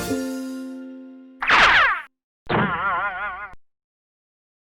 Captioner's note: air whooshing